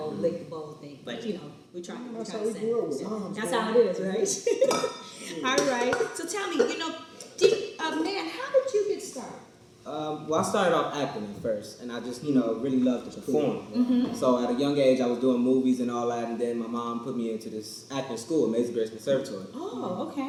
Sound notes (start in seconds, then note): 4.9 laughs